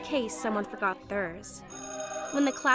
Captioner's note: school bell rings